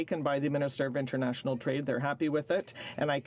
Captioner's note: speaking French